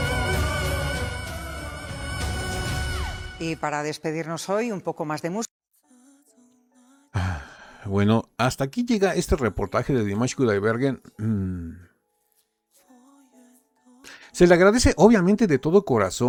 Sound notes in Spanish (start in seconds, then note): 7.1 suspiro; 11.2 carraspeo